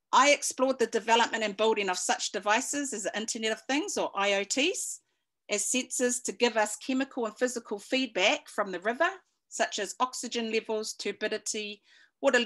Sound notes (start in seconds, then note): none